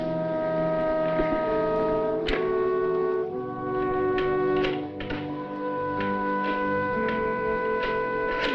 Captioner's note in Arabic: صوت رنين الهاتف